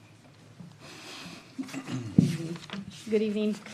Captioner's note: clears throat